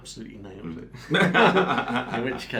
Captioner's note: both men laugh